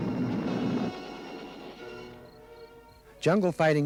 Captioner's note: cricket chirps